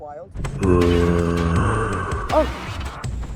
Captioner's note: zombies groaning in the distance